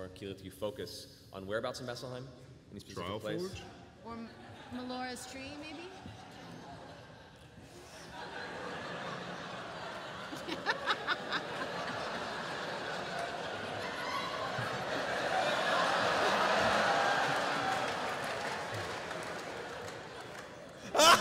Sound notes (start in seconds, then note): 8.8 laughter and applause